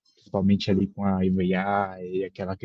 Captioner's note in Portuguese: barulho de viagem